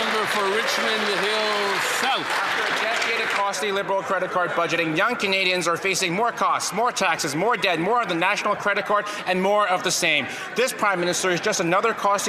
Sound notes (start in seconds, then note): 0.0 applause